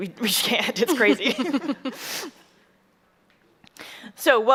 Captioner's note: chuckles